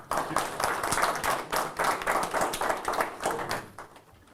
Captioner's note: audience applauding